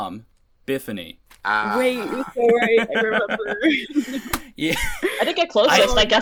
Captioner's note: laughter